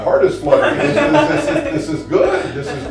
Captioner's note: both laughing